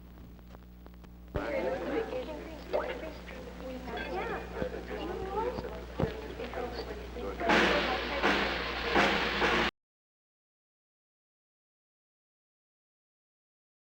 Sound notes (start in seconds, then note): 1.3 crowd chattering; 10.3 dixieland band music